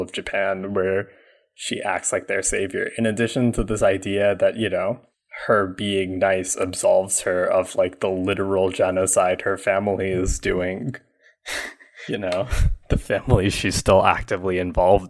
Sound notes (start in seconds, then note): 11.1 laughs